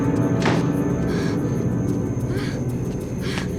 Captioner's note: door closing; soft dramatic music